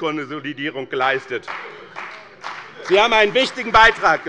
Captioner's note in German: Beifall bei dem BÜNDNIS 90/DIE GRÜNEN und der CDU